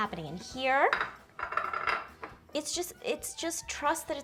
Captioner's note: ceramic rattling